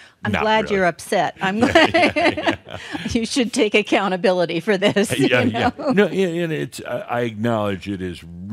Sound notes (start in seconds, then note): 1.4 they chuckle; 4.8 she chuckles